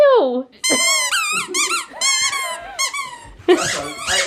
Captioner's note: squeaking